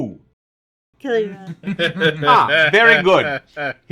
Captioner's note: laugh openly